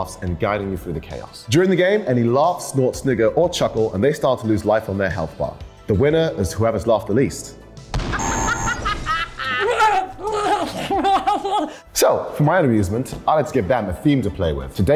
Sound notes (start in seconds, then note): 9.1 cackling noises